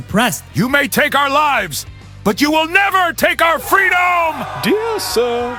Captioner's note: pompous